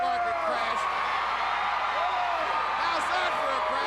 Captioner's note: crowd cheering